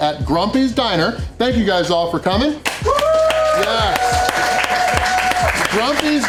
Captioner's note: crowd clapping and cheering